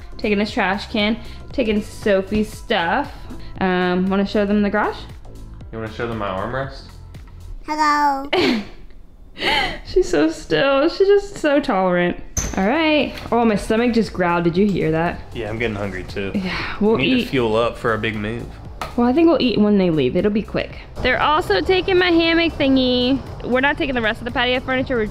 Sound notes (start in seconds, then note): 8.3 chuckles